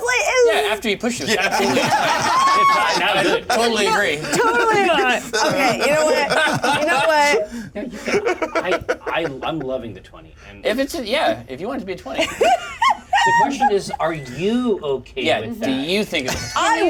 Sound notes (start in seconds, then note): 1.1 laughter; 8.0 laughs; 12.2 laughs